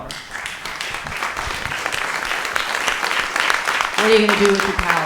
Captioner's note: audience applauding